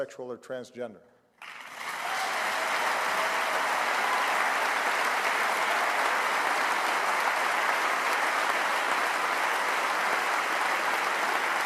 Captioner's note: applause